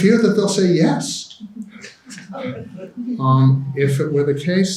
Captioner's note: audience laughing